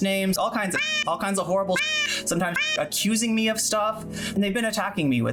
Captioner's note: meow